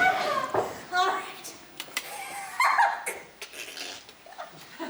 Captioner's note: laughs